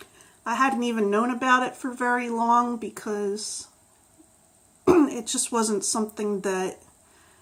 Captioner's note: clears throat